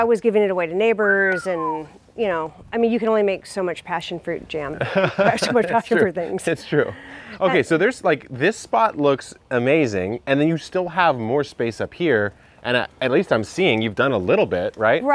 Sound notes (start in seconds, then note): 1.0 whistles; 4.7 laughs